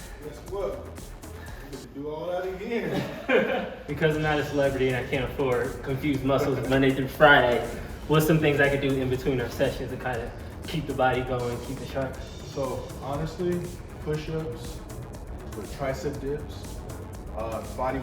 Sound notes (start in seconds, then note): 2.7 laughing; 7.6 laughing